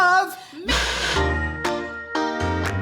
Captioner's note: Static